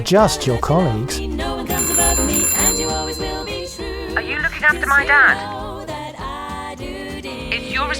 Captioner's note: phone ringing